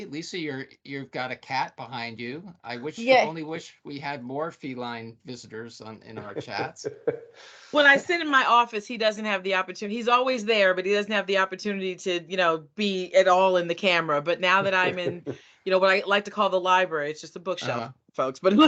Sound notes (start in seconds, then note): 5.5 laughing; 14.6 laughing